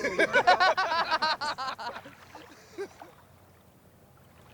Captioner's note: all laughing